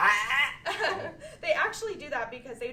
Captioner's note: choking sound; laughter